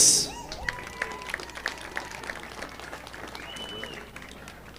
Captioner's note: audience applauding